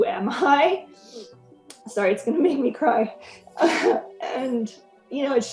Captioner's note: chuckles